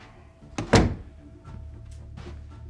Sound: door thuds; footsteps shuffle

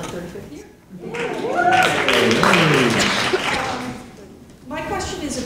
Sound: audience applauding

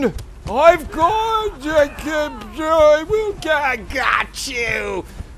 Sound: pain sounds?

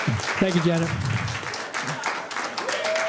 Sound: cheering and applause

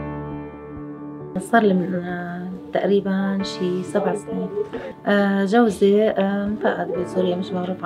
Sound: Arabic language

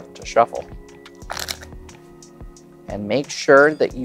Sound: cards riffling

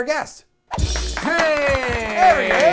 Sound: audience applauds

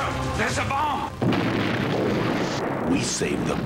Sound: multiple explosions

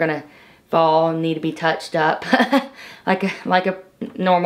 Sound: laughs

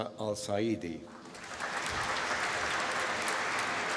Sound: applause

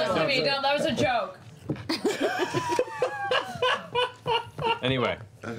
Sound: laughter

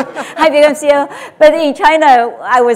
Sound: audience laughter drowns out

